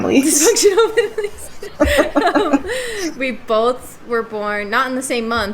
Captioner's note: shared laughter